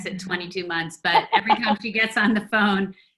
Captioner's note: woman laughs